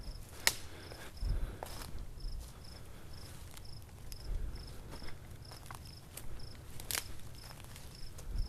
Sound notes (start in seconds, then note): 0.6 staggered breathing